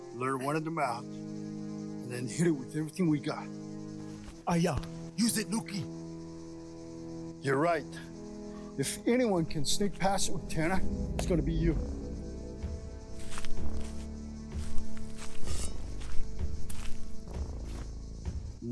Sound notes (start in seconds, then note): 4.4 speaking Cherokee language